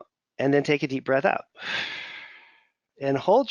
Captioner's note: exhales